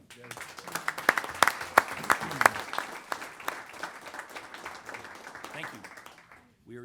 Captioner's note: applause